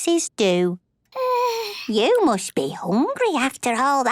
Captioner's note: yawns